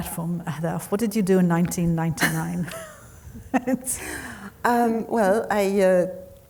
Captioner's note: laughing